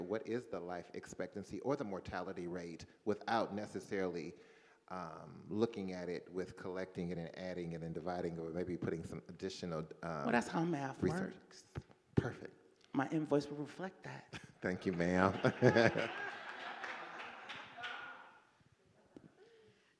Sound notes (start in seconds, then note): 14.8 laughs